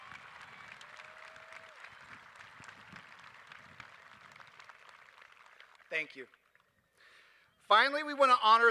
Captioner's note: applause